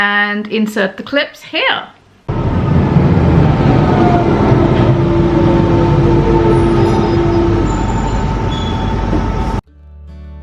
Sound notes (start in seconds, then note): 2.3 London Underground train sounds